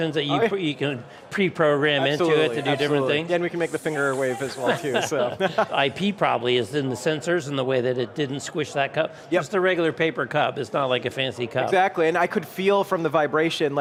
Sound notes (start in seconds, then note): 4.6 laughter